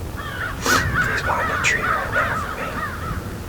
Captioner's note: whispering